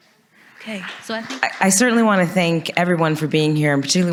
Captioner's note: audience applauds